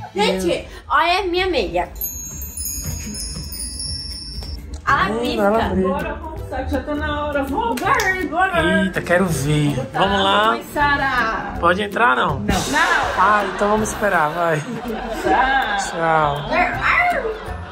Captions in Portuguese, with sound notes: Gente, olha a minha meia. [som de brilho] -Ela pisca. -Hmm, ela brilha. Bora, vamo já tá na hora, vamo. Eita quero ver, vamo lá, -Vou botar a roupa em Sarah. -Pode entrar ou não? Não! [som de bateria] [risadas] Ah então vamo esperar, vai. -Tchau! -Tchau.